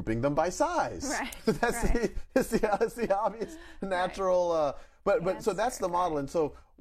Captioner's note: laughs